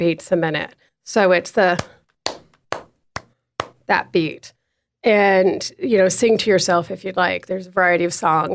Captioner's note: thumps table